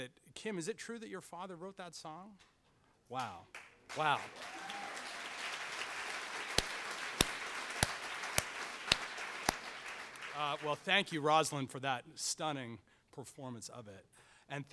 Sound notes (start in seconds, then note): 3.8 audience applauds